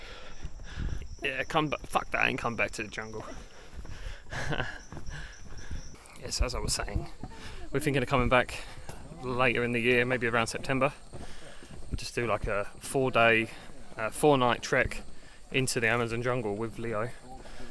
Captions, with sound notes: Yeah, fuck that and come back to the jungle [Laughter] Yes, as I was saying We're thinking of coming back later in the year maybe around September Just do like a four day four night trek into the Amazon jungle with Leo